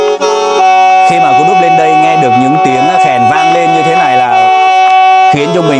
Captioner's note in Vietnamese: la hét